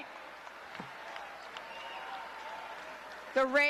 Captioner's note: crowd cheering